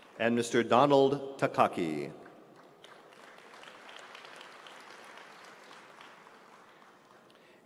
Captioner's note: applause